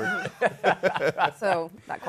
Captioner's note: laughter